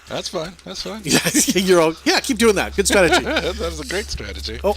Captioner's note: laughing